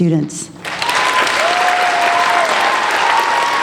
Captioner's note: applauding